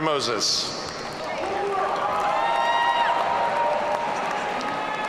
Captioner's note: audience cheering